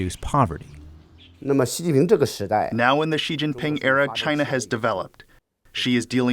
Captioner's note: through translator